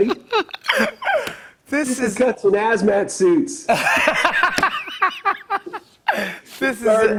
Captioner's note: laughs